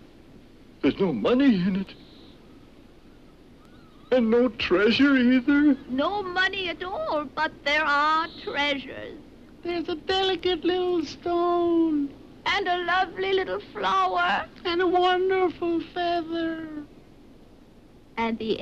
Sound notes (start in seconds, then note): none